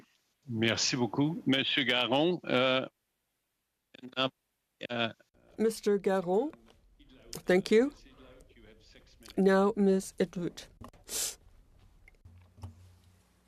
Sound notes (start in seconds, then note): 7.4 speaking French